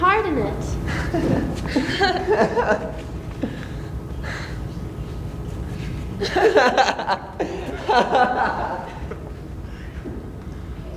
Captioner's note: laughing